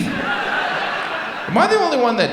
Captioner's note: audience laughs